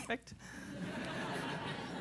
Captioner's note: laughter